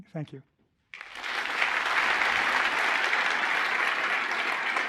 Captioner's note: applause